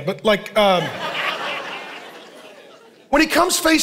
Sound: congregation laughing

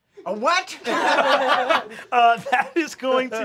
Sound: laughing

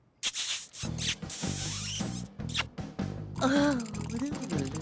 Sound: sighing

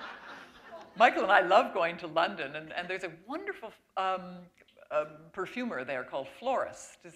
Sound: laughter

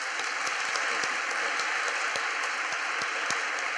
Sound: applause

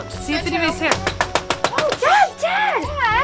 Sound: knocking on door

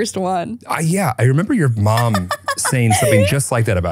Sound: laughing

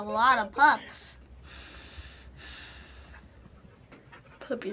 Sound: measured breathing

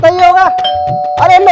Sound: door Bell Rings

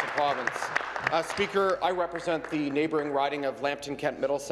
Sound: applause

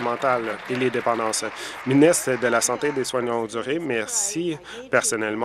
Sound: applause

